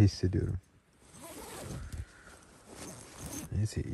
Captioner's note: zip